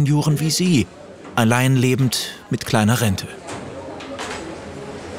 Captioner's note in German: Stimmengewirr